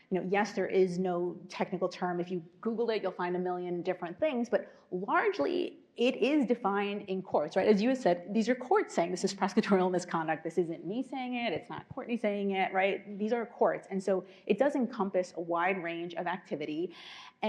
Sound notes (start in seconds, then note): none